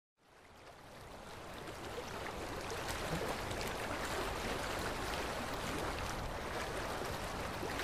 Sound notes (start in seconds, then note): 0.2 the sound of running water